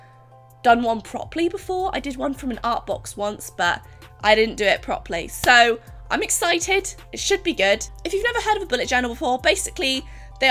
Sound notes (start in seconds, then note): none